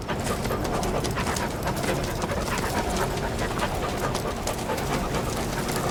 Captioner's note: dog panting heavily